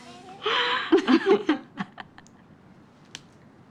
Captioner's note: both laughing